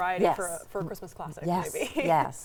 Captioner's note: laughs